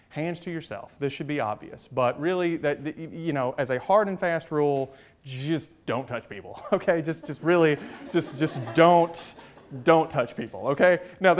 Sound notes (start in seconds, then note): 6.5 chuckles; 6.6 audience chuckles